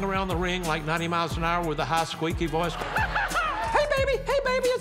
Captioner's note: high-pitched laugh